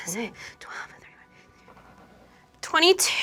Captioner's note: counting devolves into whispers